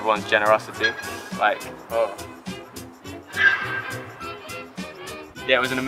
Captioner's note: goose interruption